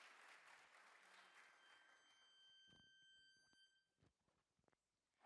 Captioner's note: whistles blowing